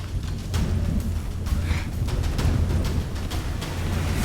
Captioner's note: grunt